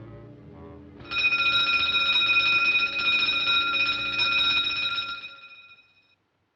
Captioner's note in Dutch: alarm gaat af